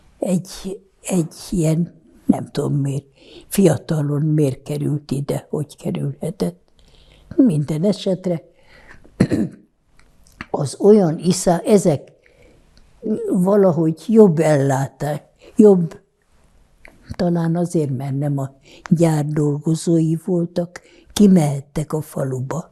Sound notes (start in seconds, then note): 8.9 clears throat